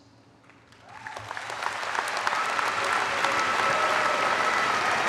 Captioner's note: audience applaud